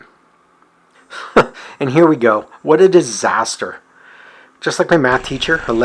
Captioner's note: chuckles